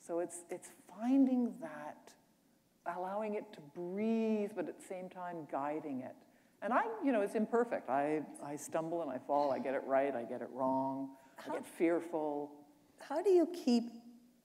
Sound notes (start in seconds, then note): none